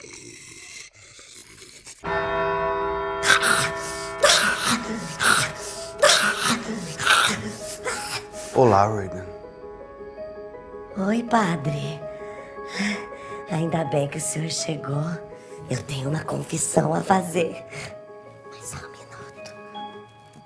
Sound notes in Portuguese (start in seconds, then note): 2.0 sinos badalando; 4.1 grunhidos; 18.1 sussurrando